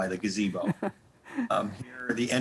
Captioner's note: laughing